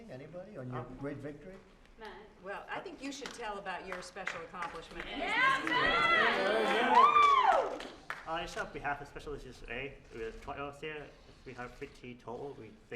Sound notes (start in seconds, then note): 3.8 applause